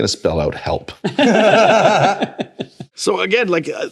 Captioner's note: laughter